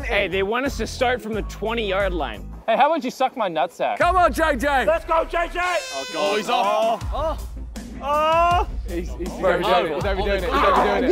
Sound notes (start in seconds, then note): 5.4 horn blowing